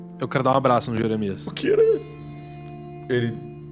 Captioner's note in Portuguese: choro